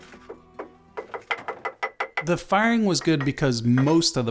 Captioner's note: tapping